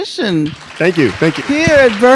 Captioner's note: audience applauding